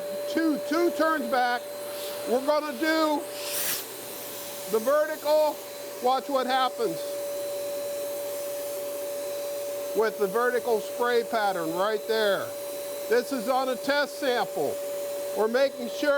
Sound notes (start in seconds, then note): none